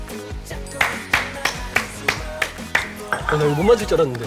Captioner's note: loud applause